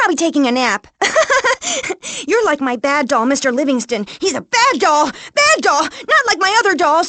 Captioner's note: laughs